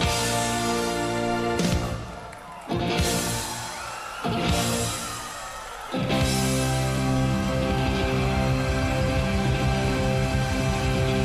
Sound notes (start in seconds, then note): 3.0 audience cheering